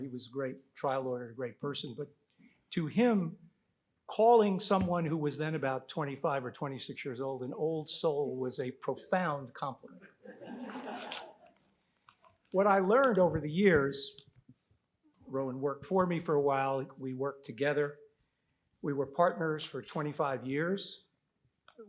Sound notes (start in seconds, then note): 10.2 audience laughs